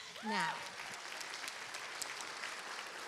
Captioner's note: applause